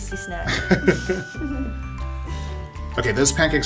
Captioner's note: laughs